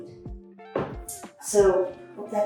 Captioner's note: blocks thump